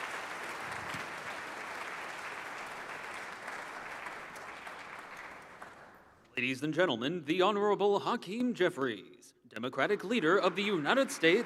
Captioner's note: applause